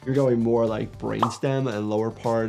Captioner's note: graphics popping